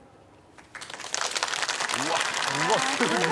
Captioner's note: clapping